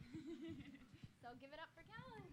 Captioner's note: laughter